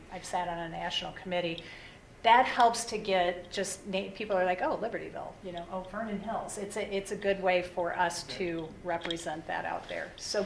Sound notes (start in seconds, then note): none